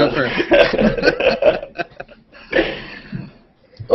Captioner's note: laughter